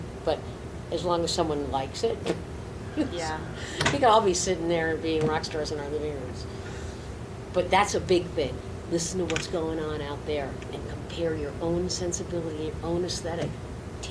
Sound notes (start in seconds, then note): 2.9 laughs